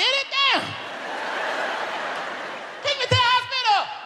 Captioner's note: audience laughs